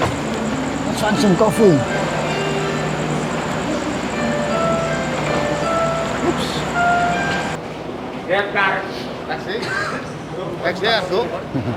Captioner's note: foreign language